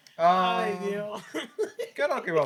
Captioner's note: laughing